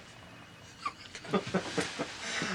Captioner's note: chuckles